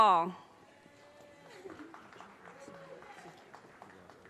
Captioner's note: audience cheers and applause